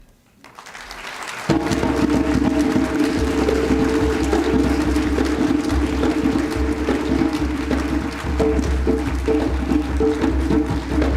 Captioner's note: applause